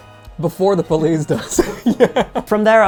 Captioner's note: laughing